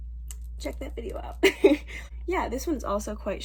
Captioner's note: laughs